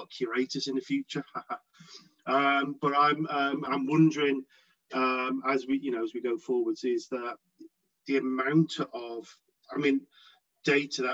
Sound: haha

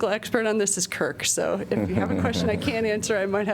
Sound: laughter

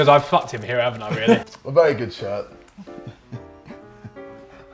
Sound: laughs

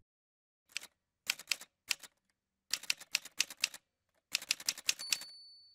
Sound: typewriter sounds

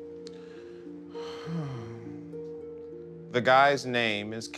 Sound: Carter sighing

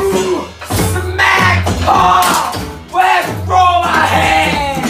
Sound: oooh

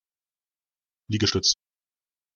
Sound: fast Pronunciation

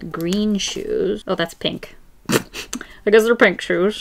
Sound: laughs

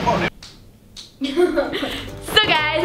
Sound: laughing

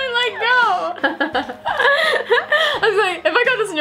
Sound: laughs

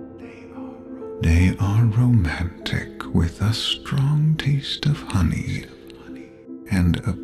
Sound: dreamily

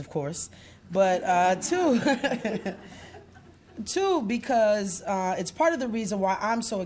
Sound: laughs

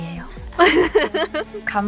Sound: giggle

